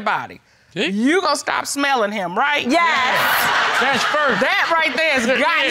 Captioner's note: laughing